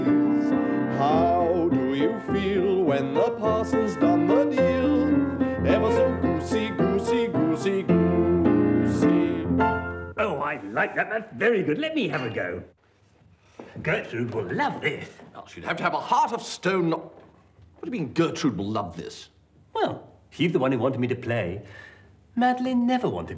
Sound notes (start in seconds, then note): none